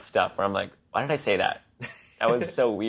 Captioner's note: laughs